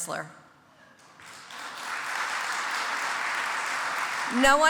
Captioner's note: audience applauds